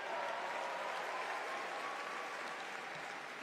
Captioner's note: applause